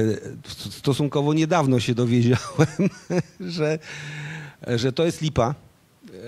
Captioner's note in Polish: śmiech